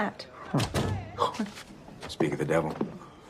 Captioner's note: door opens and closes